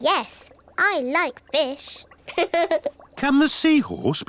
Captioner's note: laughs